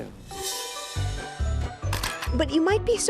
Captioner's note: whimsical music; camera shutter clicking